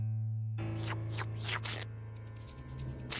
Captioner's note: slurping